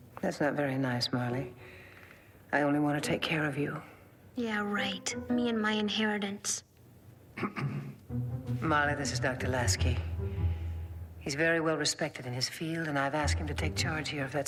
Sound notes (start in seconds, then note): 7.4 Lasky clears his throat